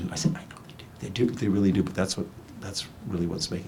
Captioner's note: none